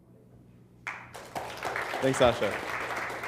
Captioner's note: applause